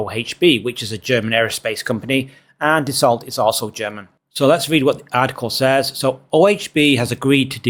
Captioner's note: French